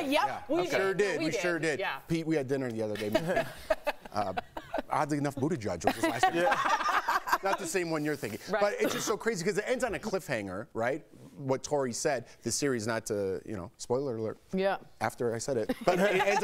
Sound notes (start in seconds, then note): 8.1 laughter